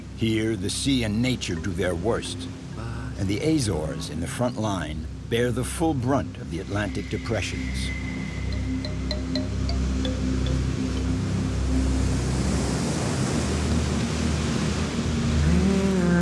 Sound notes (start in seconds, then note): 12.3 waves crashing